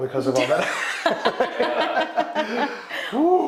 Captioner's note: all laughing